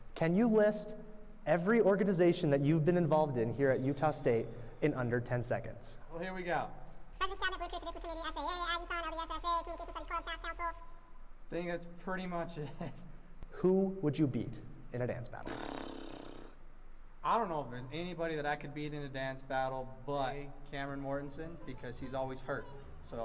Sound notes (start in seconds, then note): 6.9 speech accelerated